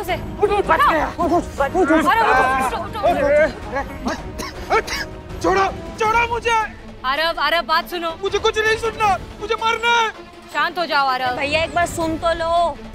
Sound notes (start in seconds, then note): 3.7 coughs